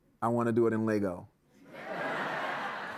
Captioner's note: laughter